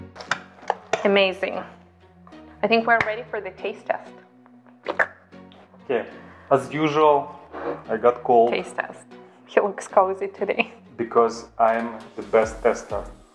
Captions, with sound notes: Amazing. I think we're ready for the taste test. (slurping) - Okay, as usual, I got called. - Taste test. He looks cozy today. - Because I am the best tester.